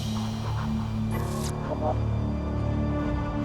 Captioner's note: ominous music; electric zap